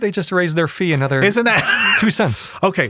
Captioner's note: laughs